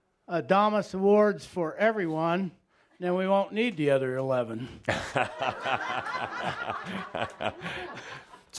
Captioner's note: laughter